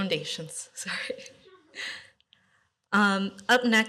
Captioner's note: laughter